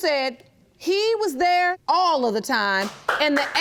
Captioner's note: loud clapping from audience